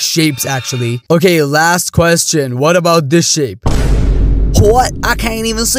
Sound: boom

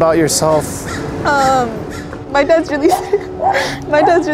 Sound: sobs

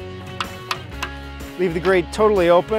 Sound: tapping

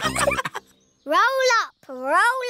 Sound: all laughing

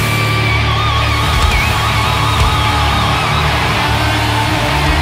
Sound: audience cheering

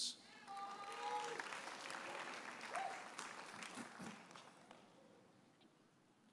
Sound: audience applauding and cheering

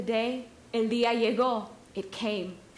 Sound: speaking Spanish

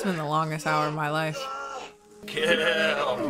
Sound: man screaming

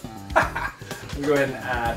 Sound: laughs

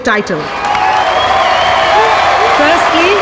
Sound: all cheering, clapping

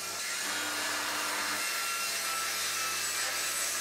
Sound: saw screeching

